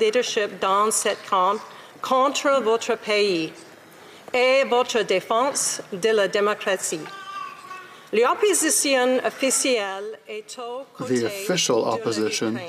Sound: speaking French

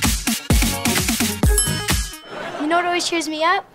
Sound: bell ringing

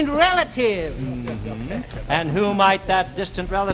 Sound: laughing

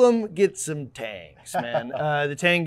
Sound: laughing

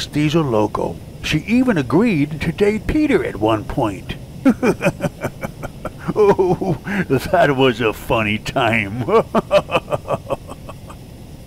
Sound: cries of laughter

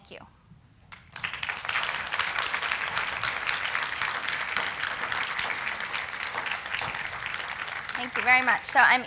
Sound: applause

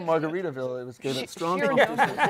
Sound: laughter

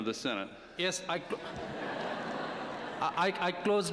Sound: laughter

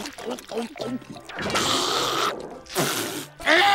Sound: gulping; hocking

